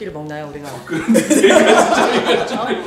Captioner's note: hahahahahahaha